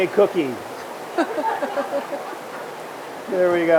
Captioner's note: laughs